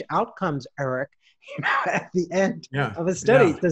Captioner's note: laughs